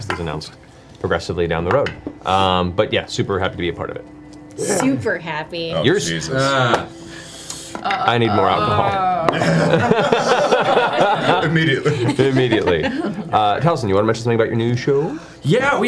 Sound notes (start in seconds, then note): 7.8 groan; 10.2 all laugh